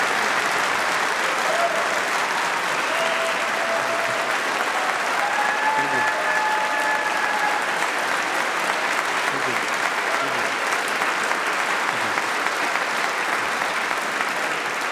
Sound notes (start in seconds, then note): 4.3 applause